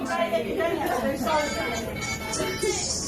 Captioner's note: chattering